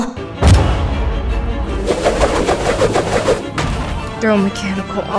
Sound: harpoon cannon fire, rope uncoiling, wood impact

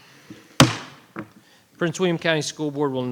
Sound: gavel thuds

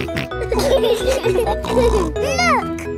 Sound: laughing

